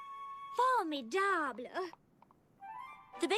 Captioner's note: speaks foreign language